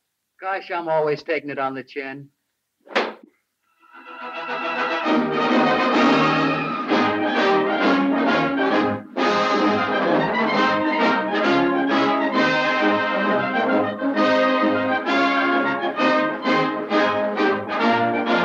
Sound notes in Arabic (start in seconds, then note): 2.8 صفعات اللوح; 4.3 موسيقى منتصرة